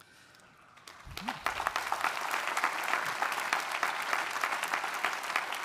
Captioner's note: audience applauding